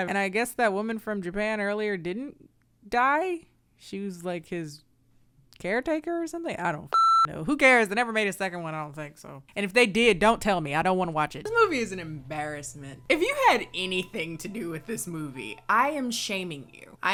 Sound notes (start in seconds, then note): 6.9 beeps